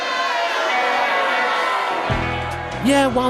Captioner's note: booing